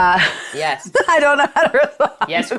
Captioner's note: laughing